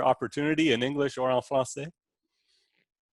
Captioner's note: speaking in foreign language